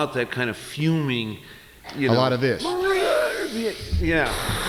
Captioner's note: sigh